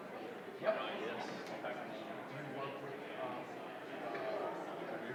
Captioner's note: indistinguishable chatter